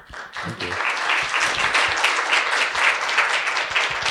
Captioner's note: audience applauds